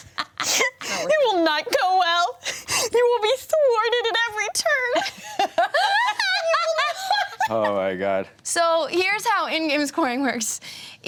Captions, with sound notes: You will not go well. You will be thwarted at every turn. (everyone laughs) - Oh my God. So, here's how end game scoring works.